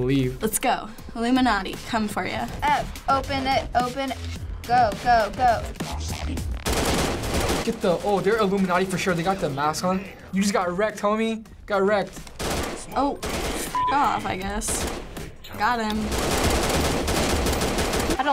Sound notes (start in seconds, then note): 6.5 gunfire; 15.6 nonstop gunfire